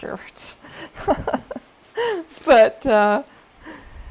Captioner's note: laughter